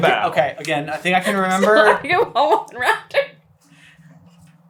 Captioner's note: laughing so hard I can't decipher it